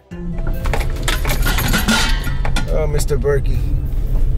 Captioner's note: metals clanking